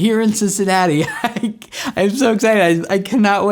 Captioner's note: laughs